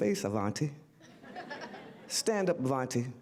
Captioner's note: audience laughter